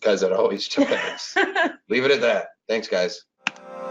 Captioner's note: laughs